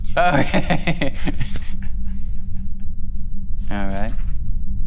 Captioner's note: laughs